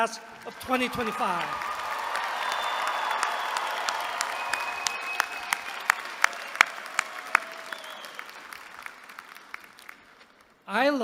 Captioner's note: applause